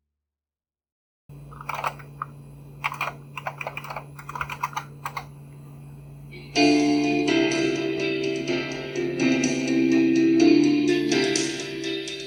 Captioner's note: typing noises, then music playback